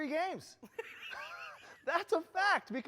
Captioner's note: both laughing